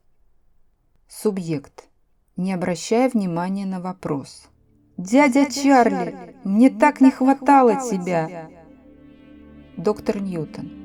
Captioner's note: in a preoccupied far-off voice